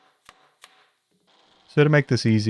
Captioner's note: hammer tapping; drill whirring